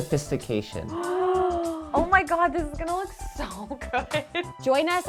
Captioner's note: gasps